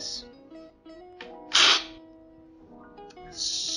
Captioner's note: slurping